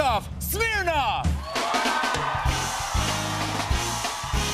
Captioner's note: cheers and applause